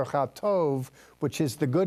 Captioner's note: Hebrew words